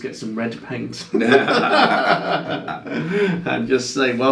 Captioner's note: laughing